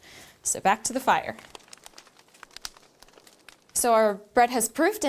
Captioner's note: crackling